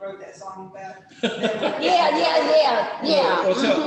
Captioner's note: laughs